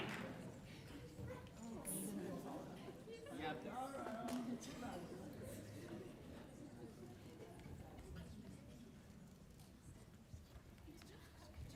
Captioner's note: applause